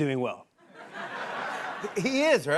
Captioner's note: laughter